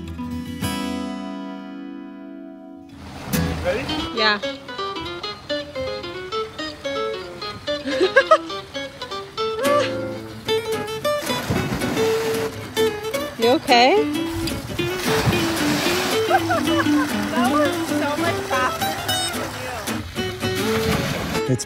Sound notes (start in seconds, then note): 7.8 laughs; 11.2 water splashes